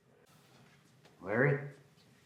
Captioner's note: static